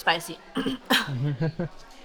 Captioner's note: laughing